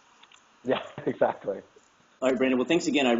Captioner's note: laugh